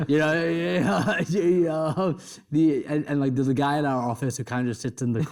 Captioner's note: chuckles